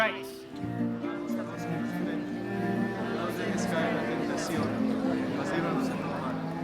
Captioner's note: crowd praying in Spanish